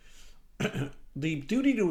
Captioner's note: clears throat